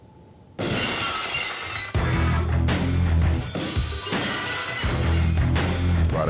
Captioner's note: glass breaking